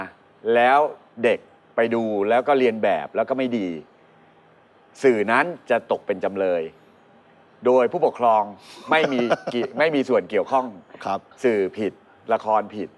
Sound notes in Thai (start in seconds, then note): 8.9 หัวเราะ